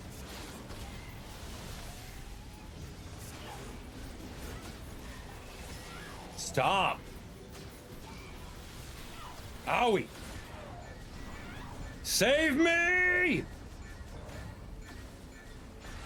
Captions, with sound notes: Stop. Owie. [Yelling] Save me!